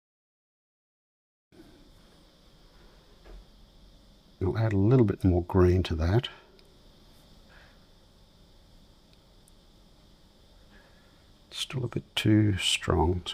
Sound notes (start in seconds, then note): 1.6 silence; 6.3 silence